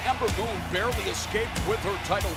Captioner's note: crowd cheering